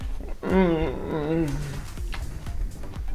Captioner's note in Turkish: mmhmmm